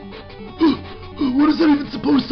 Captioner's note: gasping for air